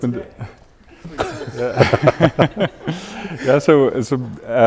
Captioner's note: audience laughing